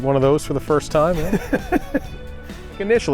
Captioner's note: laughs